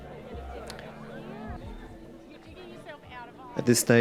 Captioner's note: guests talking